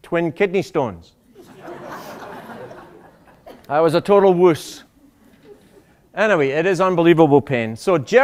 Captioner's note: laughter